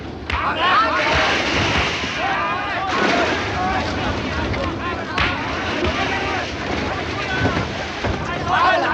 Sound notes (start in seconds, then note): 2.1 clamoring voices